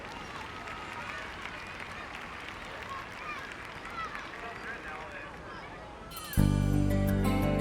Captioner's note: applause; soft music